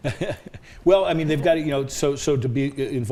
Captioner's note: laughs